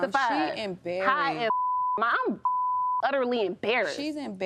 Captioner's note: beep